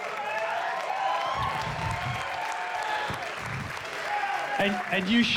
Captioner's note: cheers and applause